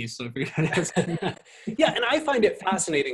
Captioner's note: both laughing